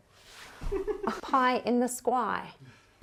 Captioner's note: laughing